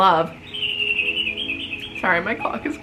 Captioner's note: birds chirping